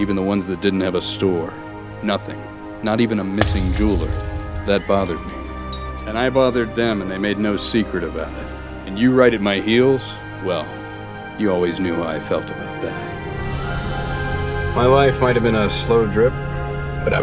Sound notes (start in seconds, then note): 3.4 glass shattering